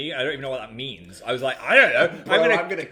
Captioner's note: chuckling